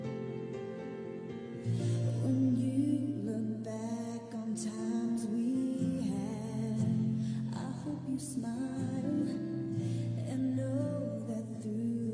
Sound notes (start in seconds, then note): none